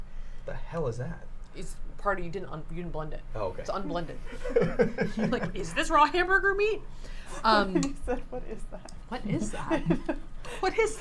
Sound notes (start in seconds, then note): 4.4 laughs